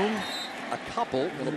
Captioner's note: whistle blows